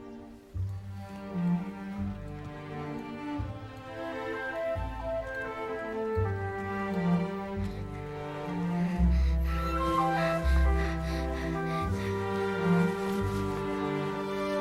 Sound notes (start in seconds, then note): 9.1 panting